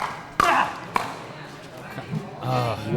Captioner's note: grunting